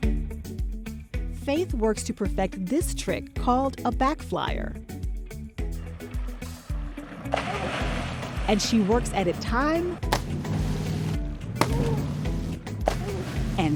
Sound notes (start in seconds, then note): 6.8 splash; 9.9 multiple splashes